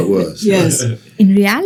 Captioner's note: participants laughing